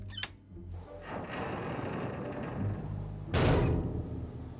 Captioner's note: creaking; thud